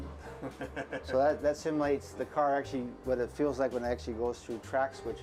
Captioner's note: chuckles